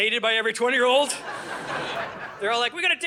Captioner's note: audience laughing